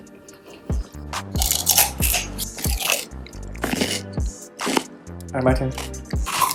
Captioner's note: slurp; crunchy cucumber noises; crunchy cucumber noises